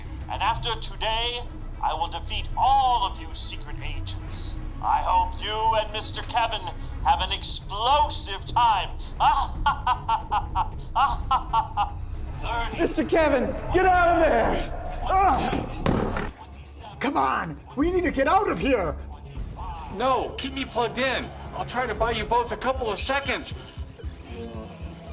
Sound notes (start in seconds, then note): 9.1 evil laugh